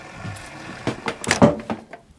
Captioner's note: clunking